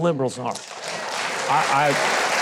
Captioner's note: congregation applauding